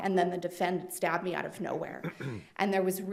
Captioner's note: attendee clears throat